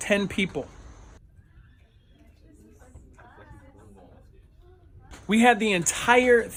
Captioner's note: silence